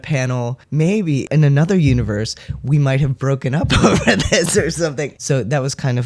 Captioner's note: laugh